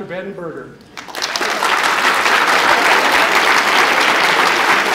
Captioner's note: applause